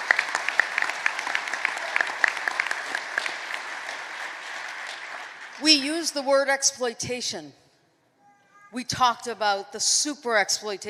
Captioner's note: applause